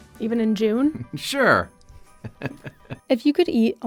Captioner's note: laughs